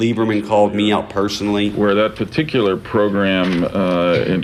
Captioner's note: soundbite of archived recording